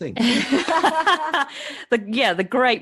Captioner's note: laughs